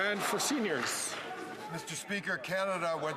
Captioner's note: some Applause